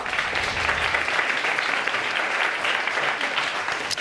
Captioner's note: audience applauding